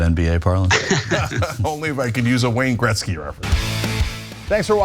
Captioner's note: laugh